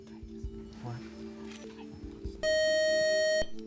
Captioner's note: beep